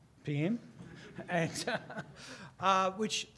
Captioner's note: laughing